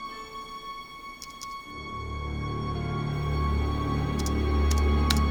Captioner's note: keyboard clicking